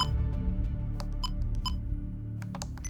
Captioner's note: recorder beep